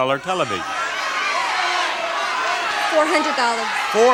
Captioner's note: audience shouting